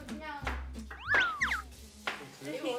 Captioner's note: hesitant